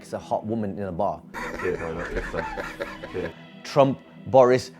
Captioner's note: laughing